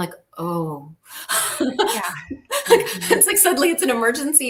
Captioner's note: laughs